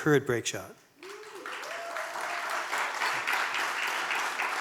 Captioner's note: audience cheering